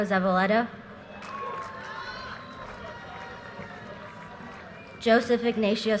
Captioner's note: audience cheers and applause